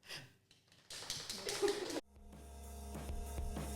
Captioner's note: applause from camera crew; theme music playing